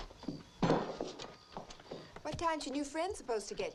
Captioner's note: dishes clinking